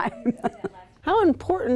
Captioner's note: laughs